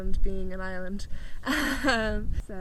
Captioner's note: laughs